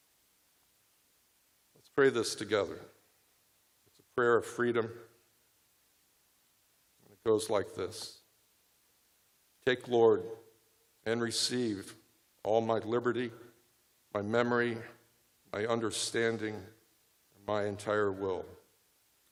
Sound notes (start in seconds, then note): none